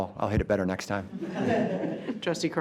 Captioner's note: all laughs